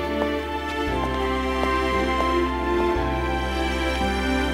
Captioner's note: Footsteps